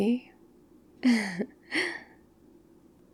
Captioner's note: laughs